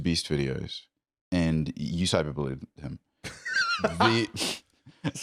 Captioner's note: laughs